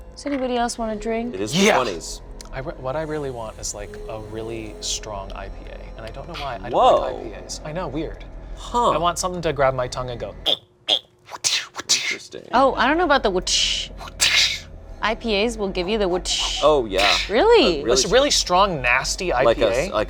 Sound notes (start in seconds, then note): 11.3 imitating whipping sounds; 14.2 imitating whipping sound